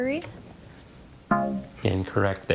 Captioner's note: tone clunks